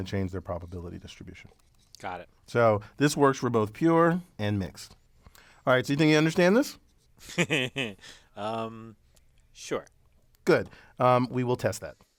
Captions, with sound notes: to change their probability distribution. >> Got it. >> So this works for both pure and mixed. Alright, so you think you understand this? >> [LAUGH] sure. >> Good, we will test that.